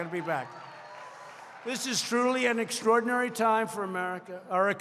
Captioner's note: applause